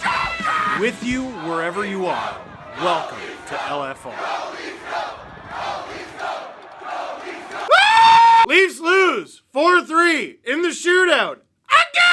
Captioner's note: screaming